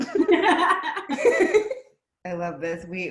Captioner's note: laughs